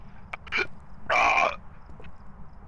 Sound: burps

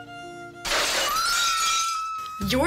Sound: violin playing; screaming, shattering

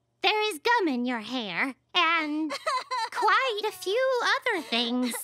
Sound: Angelica crying

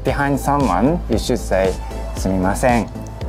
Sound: speaking in Japanese

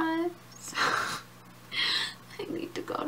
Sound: laughs

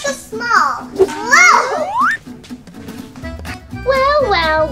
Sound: whistling

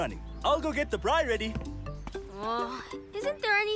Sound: groans

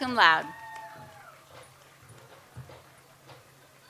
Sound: audience cheers

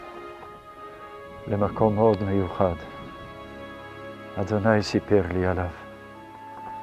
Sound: speaking in Hebrew

